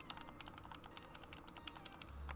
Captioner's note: cluck click clack; click clack cluck; click click clack